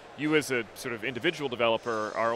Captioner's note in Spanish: none